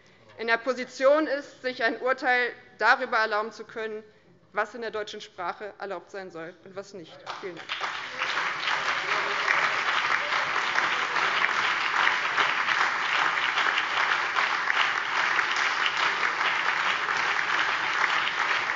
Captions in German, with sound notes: nicht in der Position sind, sich ein Urteil darüber erlauben zu können, was in der deutschen Sprache erlaubt sein soll und was nicht. - Vielen Dank. [Anhaltender lebhafter Beifall BÜNDNIS 90/DIE GRÜNEN, CDU, SPD und DIE LINKE]